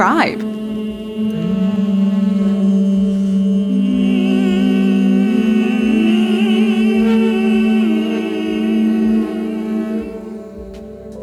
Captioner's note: tonal Humming